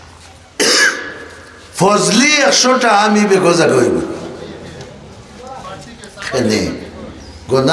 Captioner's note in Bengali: কাশি